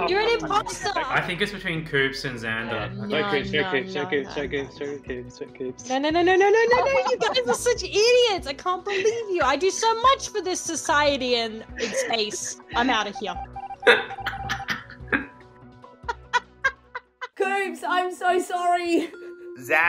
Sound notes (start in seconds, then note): 13.4 laughing